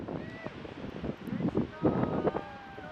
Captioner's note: wind blowing; people hollering